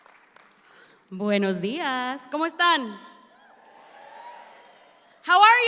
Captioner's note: speaks in Spanish